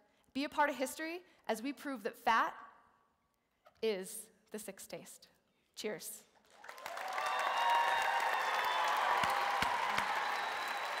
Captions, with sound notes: Be a part of history as we prove that fat is the sixth taste. Cheers. (Applause) (Cheers)